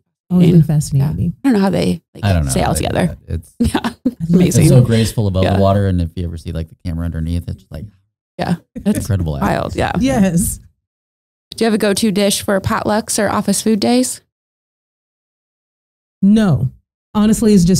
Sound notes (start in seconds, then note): 3.7 laughing